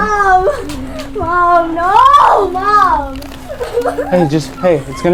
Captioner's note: crying